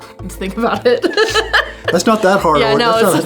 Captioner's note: chuckles